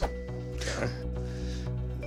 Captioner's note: exhales